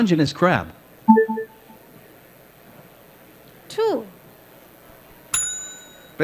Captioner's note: ding